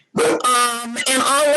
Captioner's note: dog barks